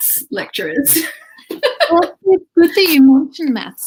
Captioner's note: laughs